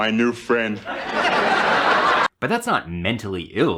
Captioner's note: audience laughing